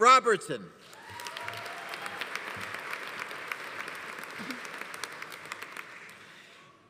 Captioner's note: audience applauding; audience cheering